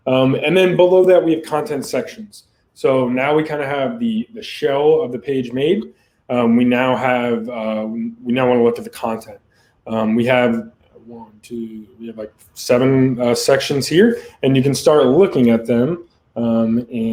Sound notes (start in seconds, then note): none